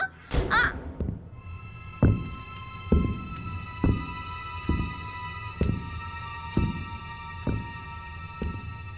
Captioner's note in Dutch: voetstappen